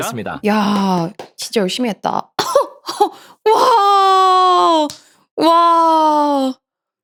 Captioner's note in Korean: 비명